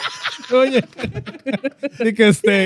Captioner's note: laughing